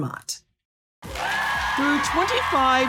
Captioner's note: applause